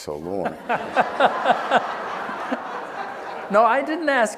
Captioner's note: laughing